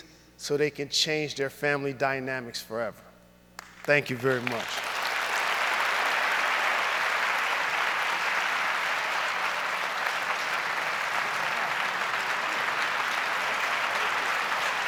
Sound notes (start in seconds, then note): 5.4 audience applauds